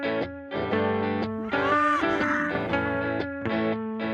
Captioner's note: scottish Highlanders bray and moo